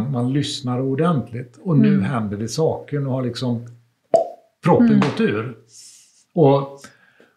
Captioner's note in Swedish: plopp ljud